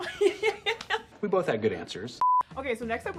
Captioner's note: both laugh